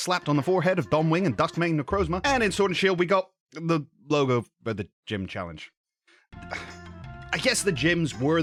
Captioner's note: sigh